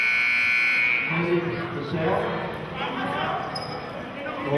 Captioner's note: buzzer sounding